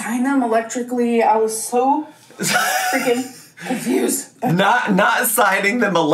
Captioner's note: laughing